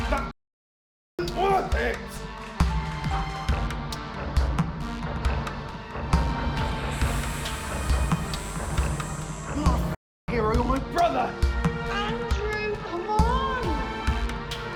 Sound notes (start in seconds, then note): 2.5 dramatic music; 6.6 snake hissing